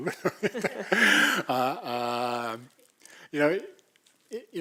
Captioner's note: laugh